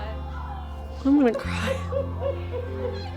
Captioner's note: crying